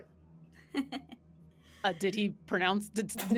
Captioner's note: laughs